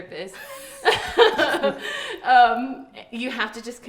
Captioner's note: group laughs